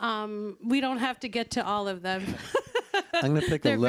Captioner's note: laughs